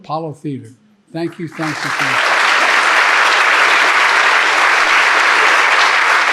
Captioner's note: audience clapping